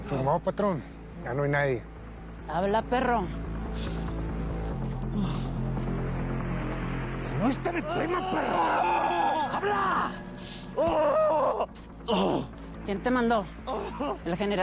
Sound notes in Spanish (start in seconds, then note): 7.8 Gritos